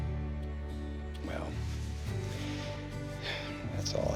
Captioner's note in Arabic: تنهدات